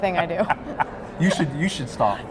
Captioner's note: laughing